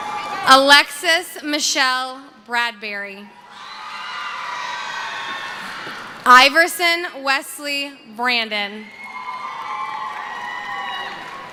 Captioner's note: cheering